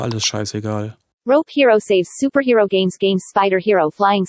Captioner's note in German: Eine weibliche Computerstimme liest vor